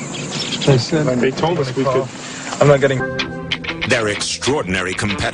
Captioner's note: birds